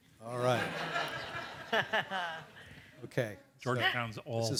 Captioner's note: audience laughs